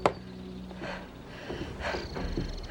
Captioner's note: gasping for breath